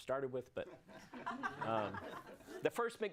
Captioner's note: audience laughs